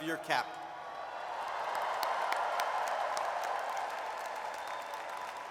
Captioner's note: audience cheers and applauds